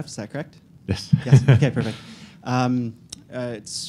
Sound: laughs

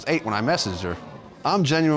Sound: audience gasps

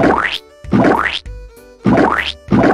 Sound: squelch; squelch

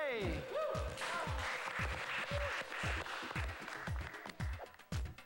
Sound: cheers and applause

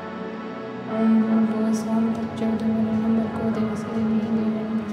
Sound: speaking softly in native language

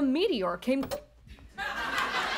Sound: TV switches off

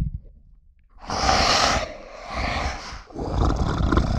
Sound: growls; exhales; snarls

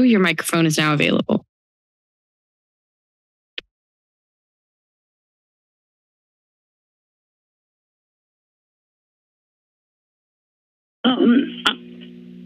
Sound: silence

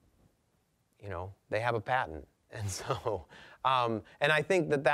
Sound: chuckling

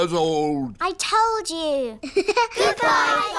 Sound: laughs

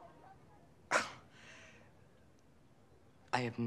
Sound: scoffs

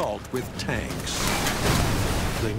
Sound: cannon shots exploding

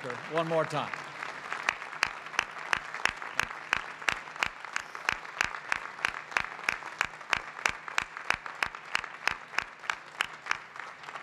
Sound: applause

